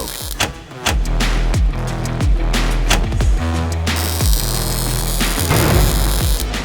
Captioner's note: upbeat music; sizzling